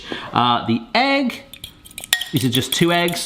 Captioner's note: fork clanking